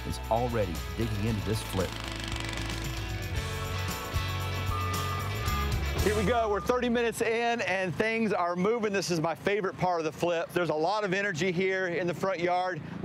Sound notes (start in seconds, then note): 2.4 upbeat music; 4.8 truck beeping